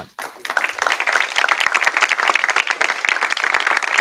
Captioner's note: applause